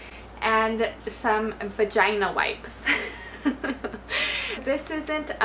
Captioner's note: chuckles